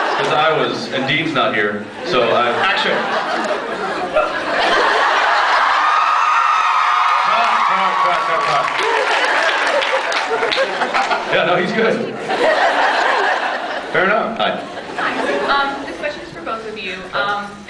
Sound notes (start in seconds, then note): 2.9 scattered laughs; 4.7 laughs, cheers; 8.3 cheers; 8.6 laughs, applauds; 10.9 laughs, inaudible; 12.1 laughs